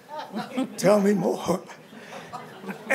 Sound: chuckling

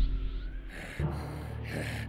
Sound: demented growling

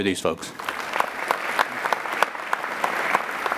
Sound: applauding

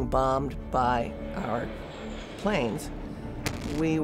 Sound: bomb exploding

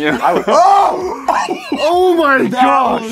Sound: sounds of AGONY

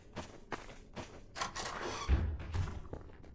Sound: doors opening

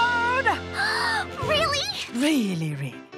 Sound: gasping

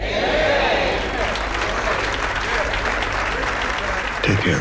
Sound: congregation applauding

